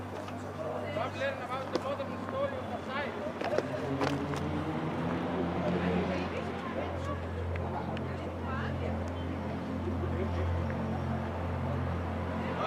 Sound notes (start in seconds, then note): 0.3 gentle music continues; 0.3 tourists chattering; 4.4 gentle music continues; 4.4 traffic droning; 7.5 tourists chattering; 8.0 gentle music continues